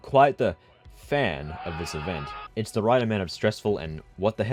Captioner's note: pain noises